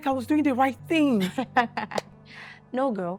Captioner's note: laughs